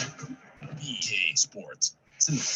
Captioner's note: voiceover